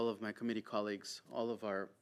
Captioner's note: speaking French